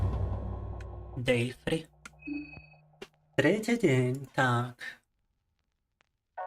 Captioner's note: speaking in Russian